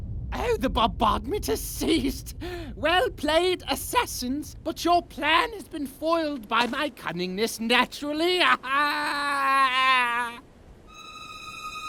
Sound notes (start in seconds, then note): 8.3 laughs